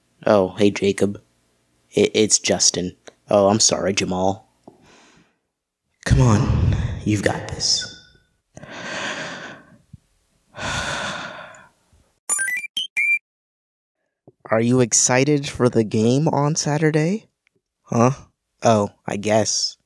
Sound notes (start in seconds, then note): 8.6 inhale; 10.5 exhale